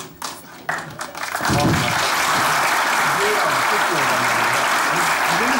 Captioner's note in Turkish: Alkış sesleri